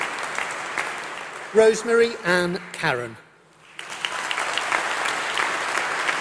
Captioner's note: applause